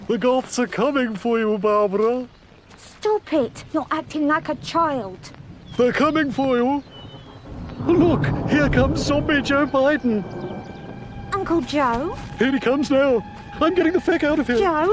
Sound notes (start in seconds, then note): 7.0 thunder rumbling; 10.5 eerie music